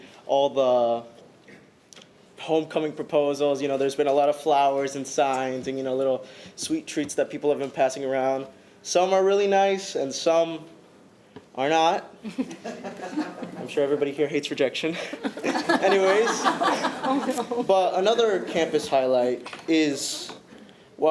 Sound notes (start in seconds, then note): 15.1 audience laughing